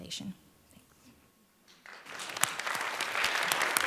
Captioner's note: applause